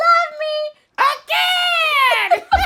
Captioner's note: laughter